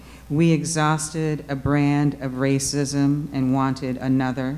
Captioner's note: none